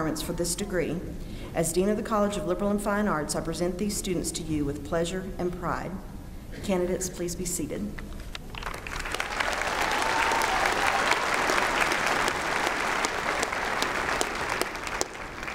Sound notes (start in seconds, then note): 8.4 applause